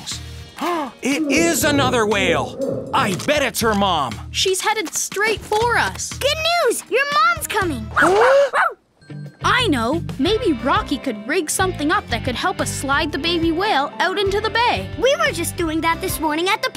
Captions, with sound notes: [gasping] It is another whale. I bet it's her mom. She's headed straight for us. Good news. Your mom's coming. [barking] I know. Maybe Rocky could rig something up that could help us slide the baby whale out into the bay. We were just doing that this morning at the park.